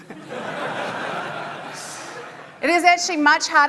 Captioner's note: audience laughing